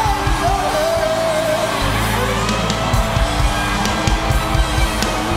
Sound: audience cheering

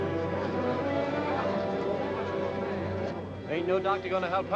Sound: people chattering

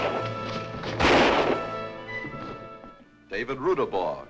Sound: fires gun

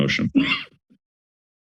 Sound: coughs

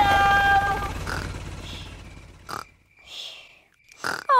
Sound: baby alexander snoring

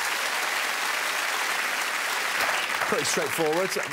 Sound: audience clapping

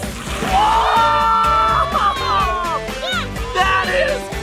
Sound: everyone cheering

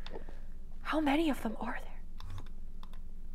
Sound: whispered

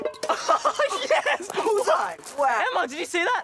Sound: laughs

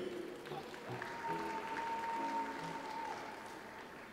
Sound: audience applauds

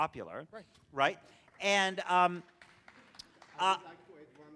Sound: audience applauds quietly

